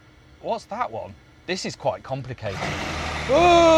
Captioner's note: motor starts